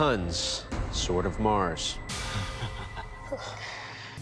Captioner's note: chukles